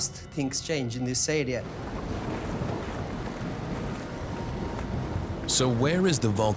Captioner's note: bubbling